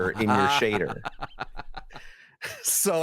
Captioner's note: laughter